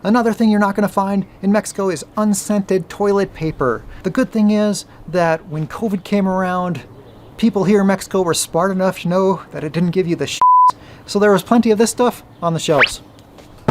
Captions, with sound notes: another thing you're not gonna find in Mexico is unscented toilet paper. The good thing is that when COVID came around, people here in Mexico were smart enough to know that it didn't give you the (beep) so there was plenty of this stuff on the shelves.